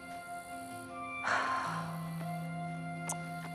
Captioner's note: sighing